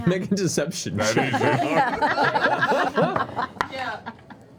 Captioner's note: laughter